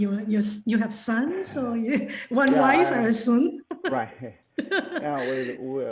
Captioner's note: laughs